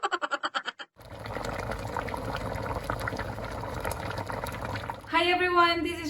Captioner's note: boiling